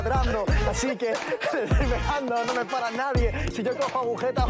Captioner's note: laughs